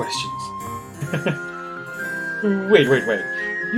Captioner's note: chuckles